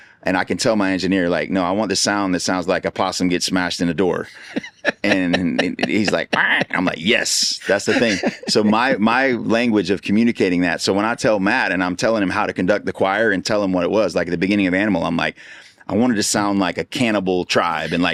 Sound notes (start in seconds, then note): 5.9 squeaks